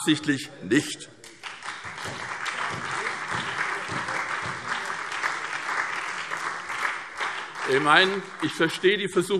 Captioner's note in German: Beifall SPD, BÜNDNIS 90/DIE GRÜNEN und DIE LINKE